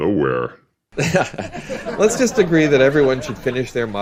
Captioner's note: laughs